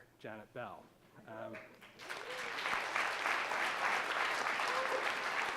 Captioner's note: audience applauding